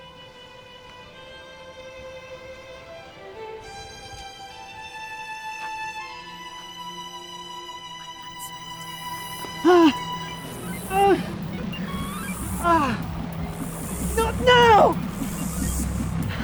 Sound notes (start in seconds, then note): 9.4 cries in pain